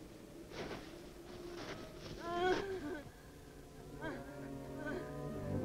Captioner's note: woman sobbing